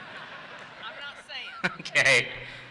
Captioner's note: audience laughs; laughs